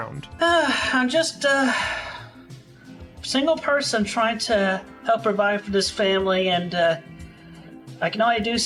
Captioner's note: sigh